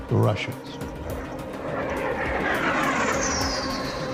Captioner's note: jet roaring